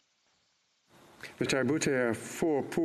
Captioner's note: speaking French